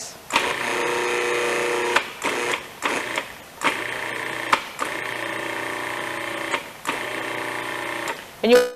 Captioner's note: food processor grinding